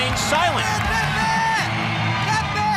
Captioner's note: crowd cheering